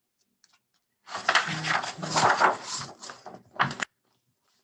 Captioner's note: page flips